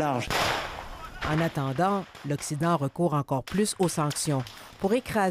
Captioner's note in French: coups de feu